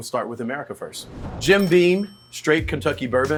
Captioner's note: cash register dings